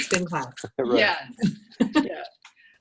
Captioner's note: laughter